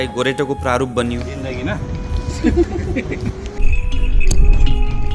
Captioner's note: laughter